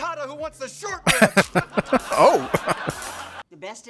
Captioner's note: laughing